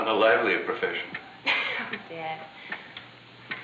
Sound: laughter

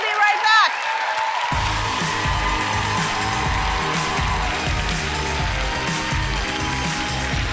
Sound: applause

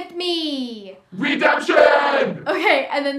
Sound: warbled voice

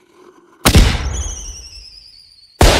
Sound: firework starts; firework Explosion

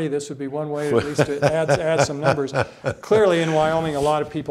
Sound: laughs

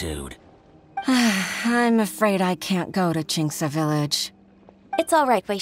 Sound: sigh

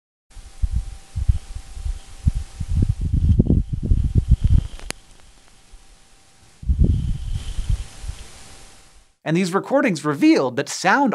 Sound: audio of martian dust devil

